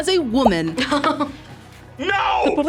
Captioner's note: laughs